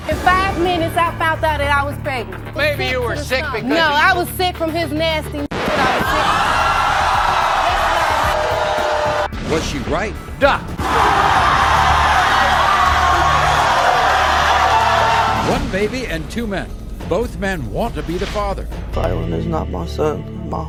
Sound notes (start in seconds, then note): 5.5 record scratching; 5.6 audience cheering; 10.7 audience cheering